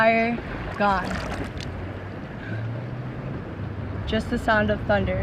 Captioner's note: sounds of waves and water dripiping through hand